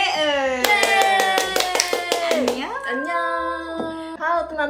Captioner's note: clapping